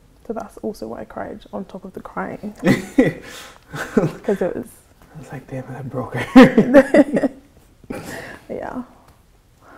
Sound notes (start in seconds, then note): 2.6 laughs; 6.2 chuckles